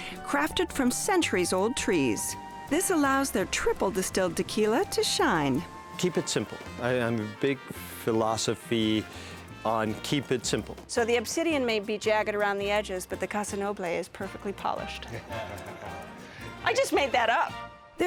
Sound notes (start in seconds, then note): 15.0 laughter